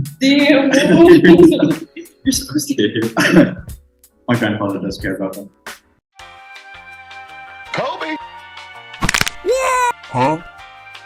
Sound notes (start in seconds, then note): 9.0 neck snap